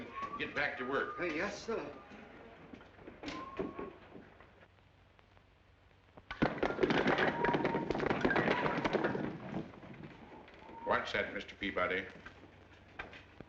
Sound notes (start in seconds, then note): 6.4 wood clattering